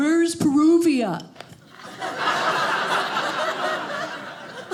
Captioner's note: audience laughing